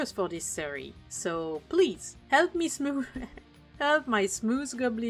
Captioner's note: laughter